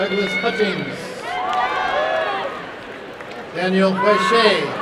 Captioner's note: applause and cheering